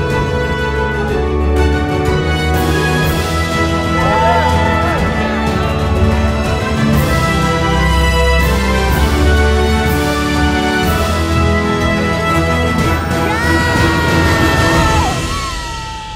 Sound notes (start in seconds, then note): 12.7 cheering